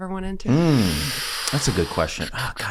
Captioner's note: Charlie breathes in sharply